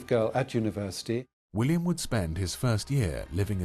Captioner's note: voiceover